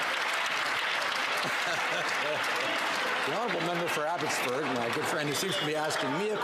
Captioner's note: some Applause